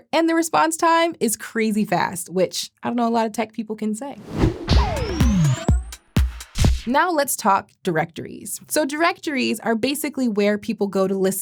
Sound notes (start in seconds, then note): 4.2 transition whooshing; 4.3 upbeat music